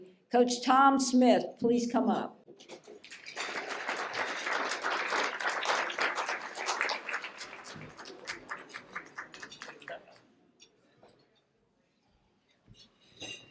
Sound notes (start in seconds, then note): 2.8 applause